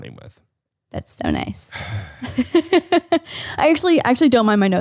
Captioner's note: sighing